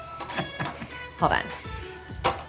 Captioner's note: laughing